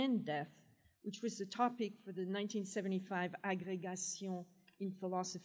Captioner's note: french